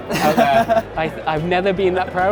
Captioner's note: chuckles